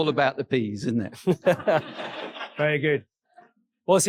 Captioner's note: audience laughing